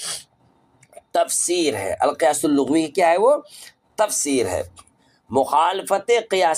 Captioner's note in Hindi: नाक से की जाने वाली आवाज़